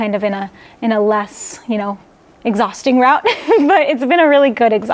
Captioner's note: laughs